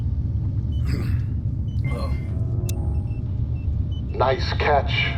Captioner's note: Captain Thiago grunts